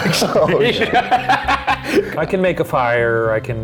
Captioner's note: laughing